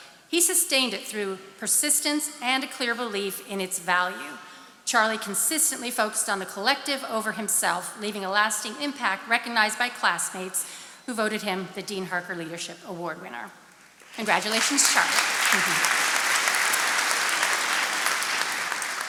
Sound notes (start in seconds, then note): 15.4 chuckles; 15.8 attendees applauding